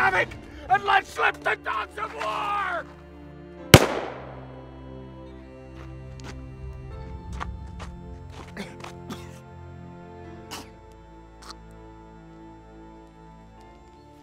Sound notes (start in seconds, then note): 3.7 gunshot popping; 7.4 Graham coughs; 11.4 Graham sputters